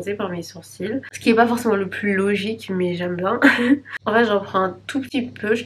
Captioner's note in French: rires